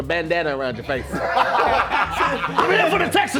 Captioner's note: laughing